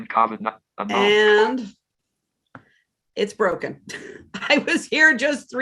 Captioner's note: chuckles